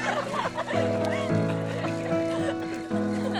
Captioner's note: laughter